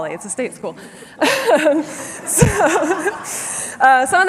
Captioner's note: laughter